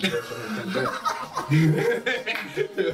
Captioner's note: laughs